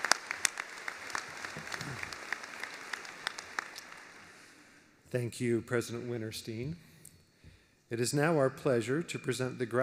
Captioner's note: applause